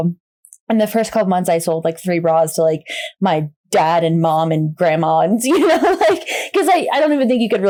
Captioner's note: laughs